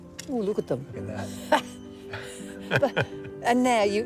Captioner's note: laughs